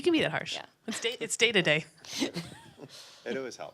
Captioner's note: laughs